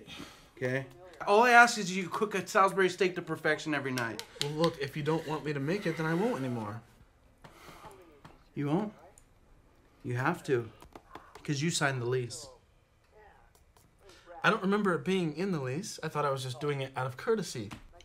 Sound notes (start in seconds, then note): none